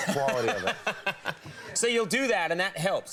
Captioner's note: laughing